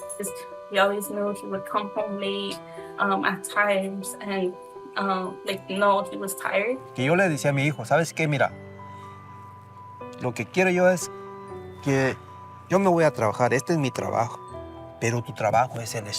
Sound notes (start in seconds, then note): 6.8 speaking in Spanish